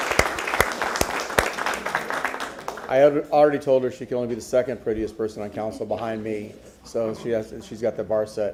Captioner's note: applause